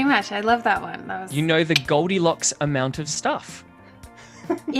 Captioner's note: laughs